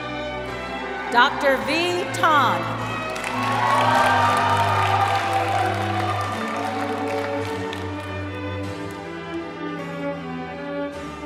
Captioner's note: cheering